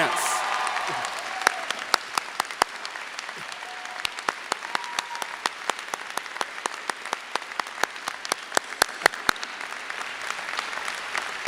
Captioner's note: applause